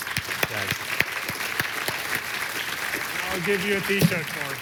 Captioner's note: applause